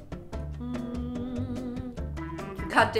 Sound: hums

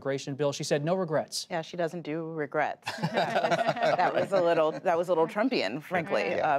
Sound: laughter

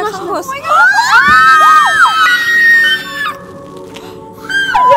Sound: scream

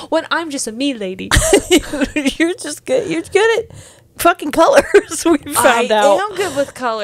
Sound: laughs

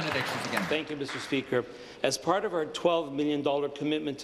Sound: applause

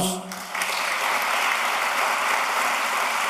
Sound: applause

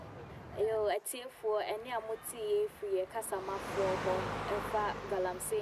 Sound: woman on TV in Twi

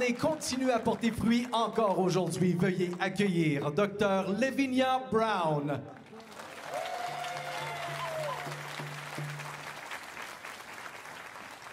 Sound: speaking French; cheers and Applause

